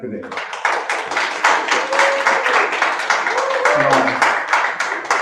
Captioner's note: applause